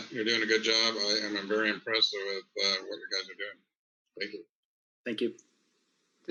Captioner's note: speaks faintly